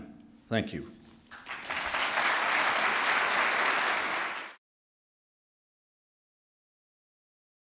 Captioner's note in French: Applaudissements